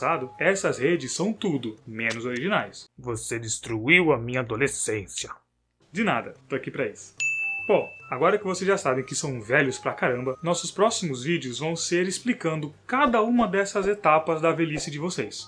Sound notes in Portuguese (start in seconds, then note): 7.2 plim